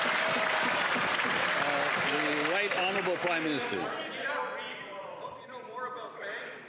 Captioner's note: cheers & Applause